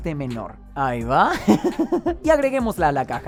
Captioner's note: laughs